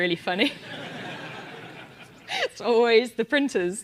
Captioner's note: laugh